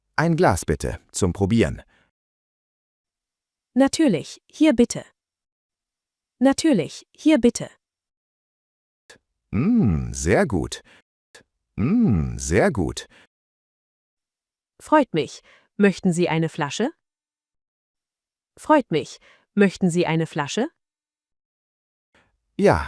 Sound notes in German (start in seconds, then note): 8.6 trinkt